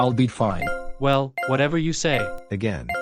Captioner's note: beeping